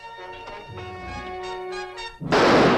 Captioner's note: gunshot